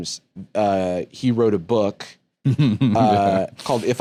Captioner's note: chuckling